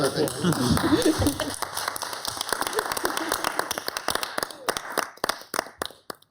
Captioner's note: city council members applauding